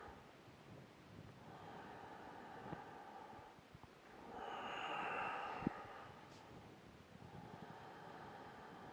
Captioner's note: breathing